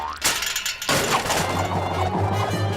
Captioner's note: whirring